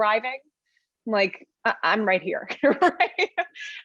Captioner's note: laughs